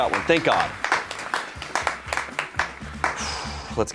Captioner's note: crew applauds